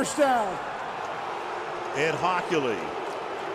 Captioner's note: cheering